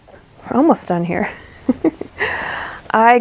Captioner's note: rueful laugh